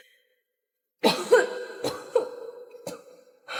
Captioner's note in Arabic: سعال